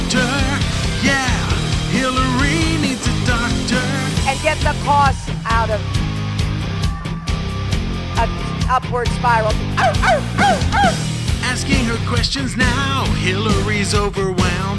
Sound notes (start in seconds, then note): 9.8 Hillary barks like a dog